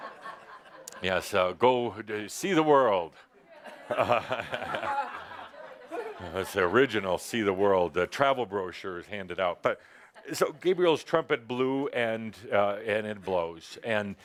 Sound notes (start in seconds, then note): 3.9 chuckles